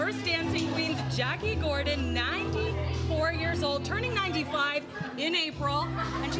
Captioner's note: laughs